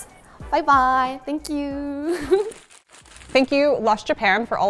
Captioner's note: laughs